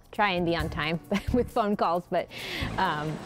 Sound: laughs

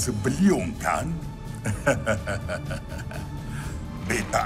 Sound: chuckles

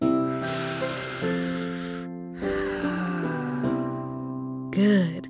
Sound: deep breathing

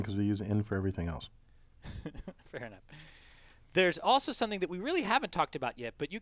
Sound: laugh

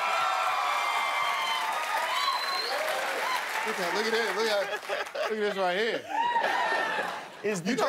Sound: laughter and applause

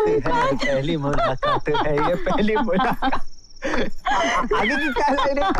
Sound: laughs

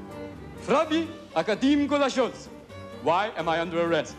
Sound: speaking foreign language

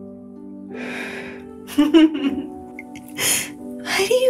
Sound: laughs

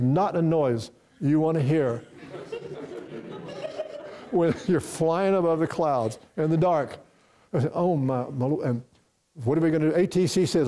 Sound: laughter from the audience

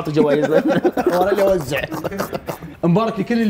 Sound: both laughing

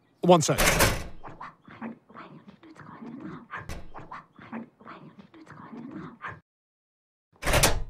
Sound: hushed whispering and arguing

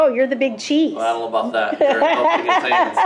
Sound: laughs loudly

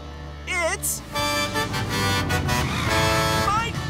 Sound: honking

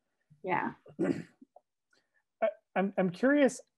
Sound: clears throat

